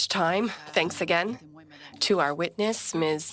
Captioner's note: speaking French